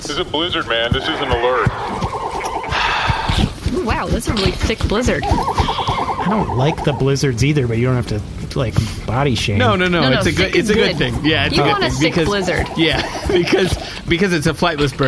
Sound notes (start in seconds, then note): 6.5 quietly